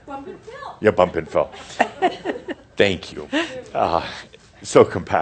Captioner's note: chuckles